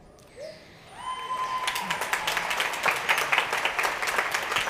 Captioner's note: applause